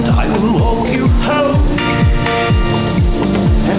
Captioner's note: faint boat motor sounds